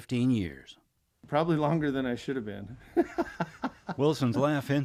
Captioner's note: laughs